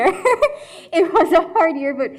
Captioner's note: chuckles